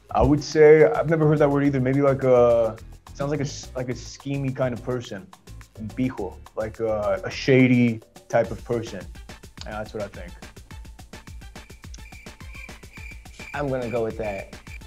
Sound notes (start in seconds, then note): 11.3 crickets chirping; 14.5 buzzer